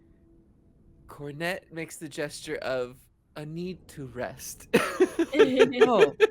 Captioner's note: laughs